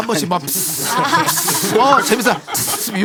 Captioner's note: pssssht!